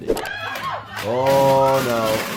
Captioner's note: crowd screaming